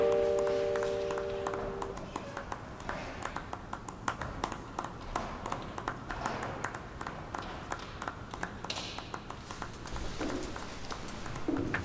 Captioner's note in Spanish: Aplausos